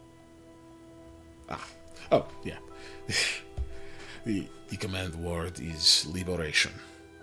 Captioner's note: laughs; laugh